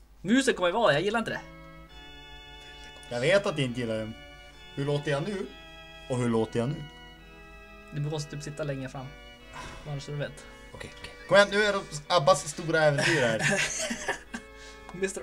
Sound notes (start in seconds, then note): 9.5 sigh